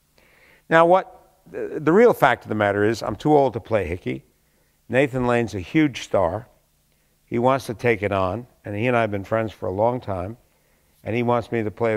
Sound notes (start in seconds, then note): none